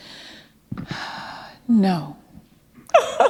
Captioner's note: chuckle